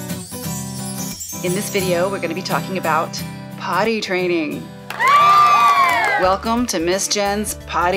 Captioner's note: cheers